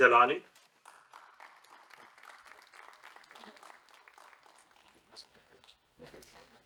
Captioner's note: applause